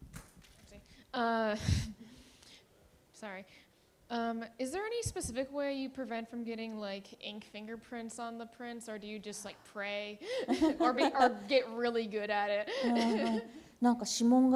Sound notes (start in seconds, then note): 12.7 laughter; 13.4 speaking japanese